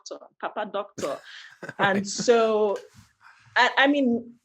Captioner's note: laughter